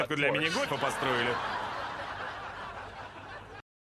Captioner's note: offscreen laughter